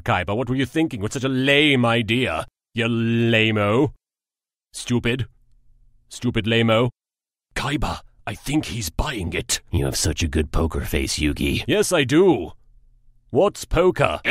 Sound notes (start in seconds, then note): 7.5 whispering; 9.6 sarcastically